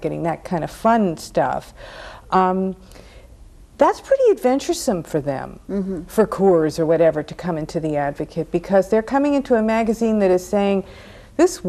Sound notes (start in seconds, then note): none